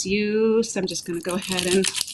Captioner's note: garlic rolling